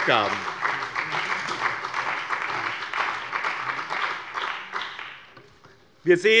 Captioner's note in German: Beifall bei dem BÜNDNIS 90/DIE GRÜNEN und der CDU